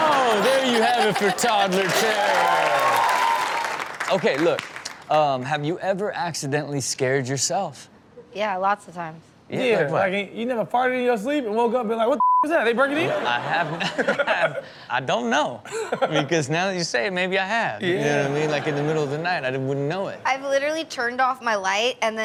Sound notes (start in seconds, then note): 2.3 audience cheers; 12.2 beep; 12.8 audience and hosts laugh